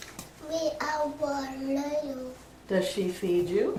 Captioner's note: child mumbling